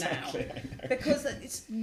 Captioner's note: laugh